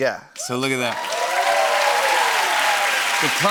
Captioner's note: cheers and applause